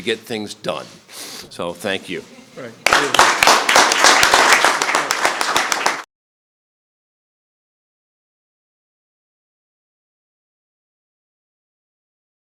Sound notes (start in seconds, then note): 2.8 applause